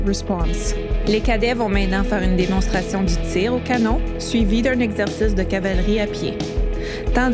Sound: repeats the message in French

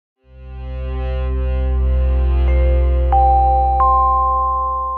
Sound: gentle bells chiming

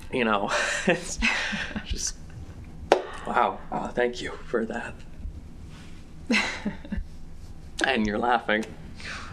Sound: giggle

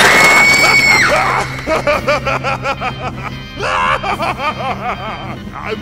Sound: laughing

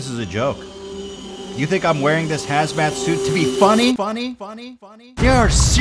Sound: 'funny' echoes

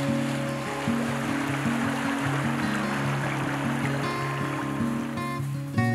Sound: river sound

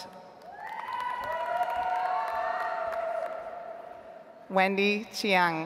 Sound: audience applauds

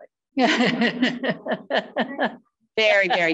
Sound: women laughing

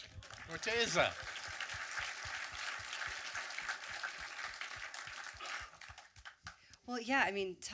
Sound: audience clapping

